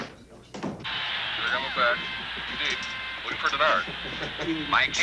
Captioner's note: sportscast plays on television in background